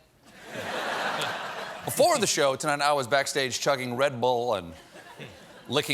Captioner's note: laughter